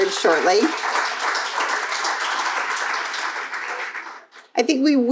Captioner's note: crowd applauding